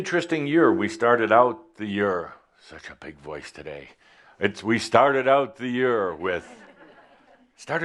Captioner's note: there is some microphone distortion